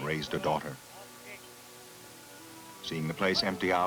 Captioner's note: auctioneer still audible